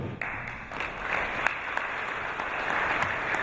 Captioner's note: applause